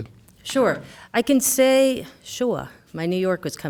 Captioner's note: new York accent